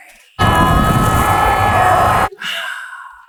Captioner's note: screams